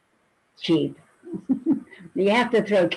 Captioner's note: laughing loudly